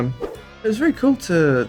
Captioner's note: slide swipe